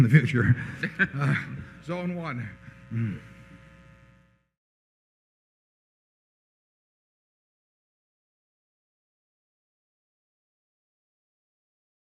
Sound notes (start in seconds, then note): 0.0 laughter